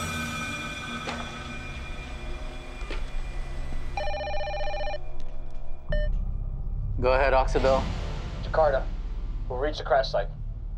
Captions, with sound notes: (phone ringing) (beeping) - Go ahead, Oksibil. - Ricardo, we've reached the crash site.